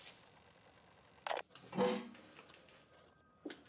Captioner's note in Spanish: clic